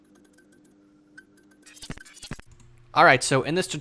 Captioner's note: glitching noises